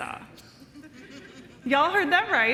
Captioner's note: crowd laughing